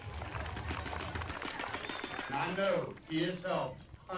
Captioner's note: people applauding